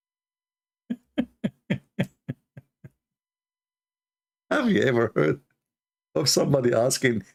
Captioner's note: Ketawa